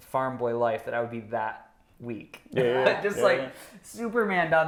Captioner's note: laughs